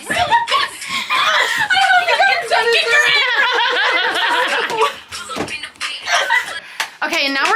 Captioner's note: girls all talking and laughing at once